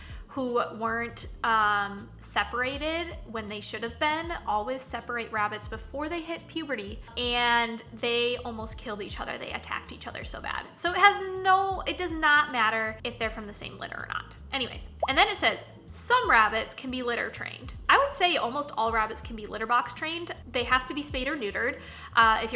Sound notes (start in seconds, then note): 14.9 popping